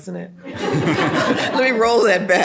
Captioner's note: all laugh out loud